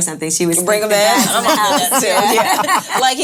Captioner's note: laughing